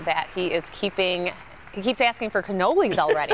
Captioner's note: applause